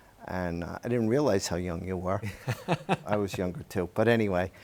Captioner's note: laughs